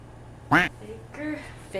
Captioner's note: quack